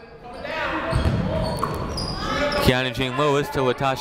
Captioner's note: people shouting in the crowd